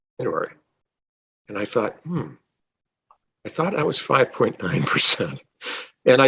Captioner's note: laughing